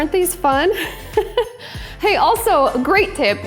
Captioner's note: laughs